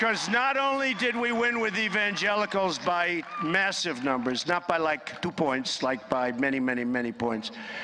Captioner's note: applause